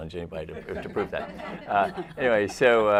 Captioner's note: laughter